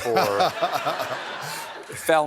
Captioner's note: laughter